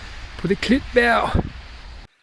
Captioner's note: speaking danish